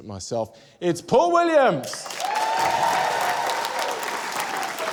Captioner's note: cheering, applause